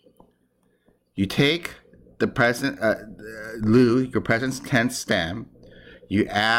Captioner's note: speaking greek